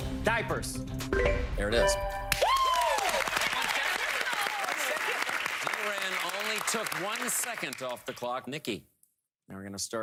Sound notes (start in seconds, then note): 3.8 cheers and applause